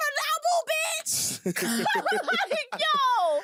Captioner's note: both laughing